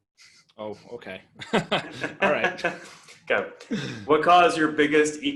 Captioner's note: laughing